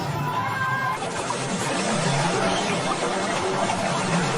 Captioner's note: earth rumbling